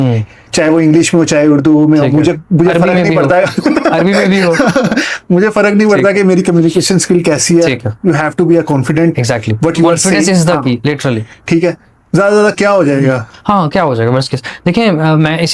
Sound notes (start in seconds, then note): 6.3 laughs